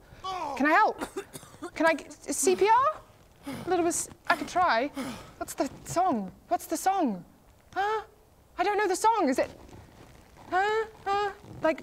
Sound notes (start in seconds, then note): 5.3 death wheezes